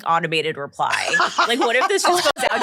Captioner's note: laughs